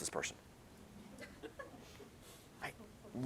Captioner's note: laughter